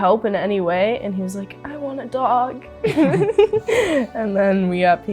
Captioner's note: laughs